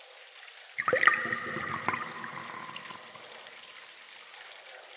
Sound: water rippling

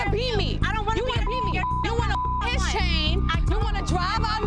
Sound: beep

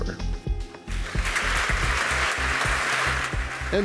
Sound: audience applauds

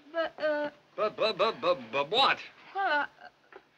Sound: stuttering

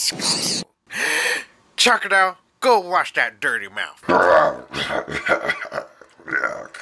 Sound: gasp

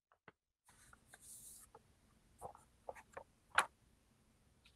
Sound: paper ruffling

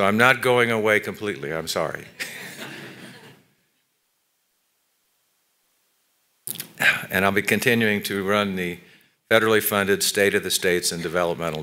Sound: laughter

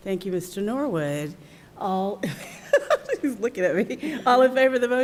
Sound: chuckles

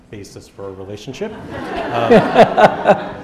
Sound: laughter

